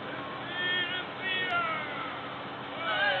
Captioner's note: powhiri in male Māori voice continues